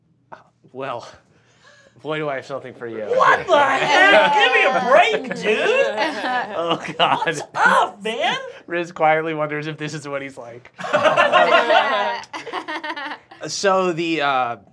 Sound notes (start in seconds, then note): 0.6 chuckling; 5.2 laughter; 10.8 laughter